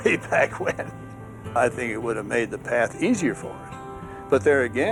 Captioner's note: laughs